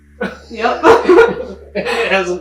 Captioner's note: group laughing